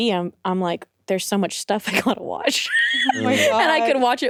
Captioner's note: laughs